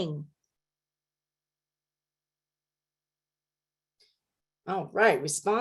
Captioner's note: silence